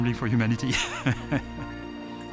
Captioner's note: laughs